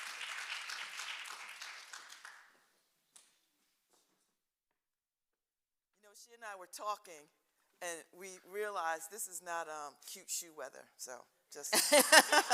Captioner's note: applause